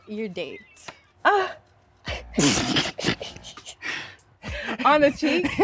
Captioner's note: all laughing